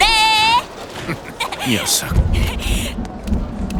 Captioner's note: chuckles